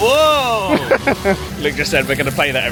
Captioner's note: laughs